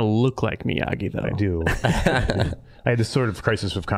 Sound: all laughing

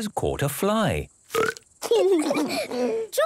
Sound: burps

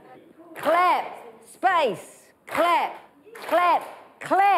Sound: all clap

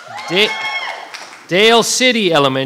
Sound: audience cheering

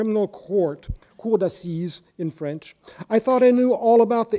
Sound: speaking in foreign language

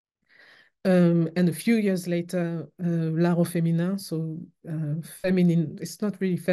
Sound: french

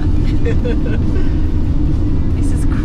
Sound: laughing

